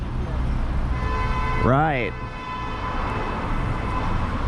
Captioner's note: distant car horns